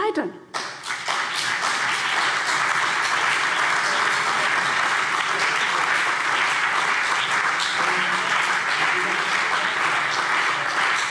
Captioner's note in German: Beifall CDU und BÜNDNIS 90/DIE GRÜNEN